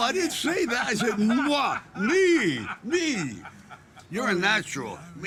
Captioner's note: laughing